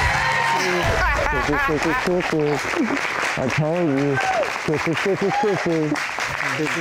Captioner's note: laughing; muffled voice